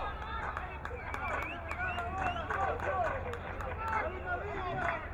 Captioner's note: crowd clapping